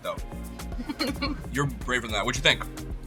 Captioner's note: chuckling